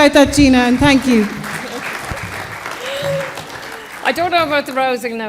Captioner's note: applause